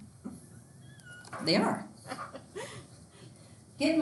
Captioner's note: student laughs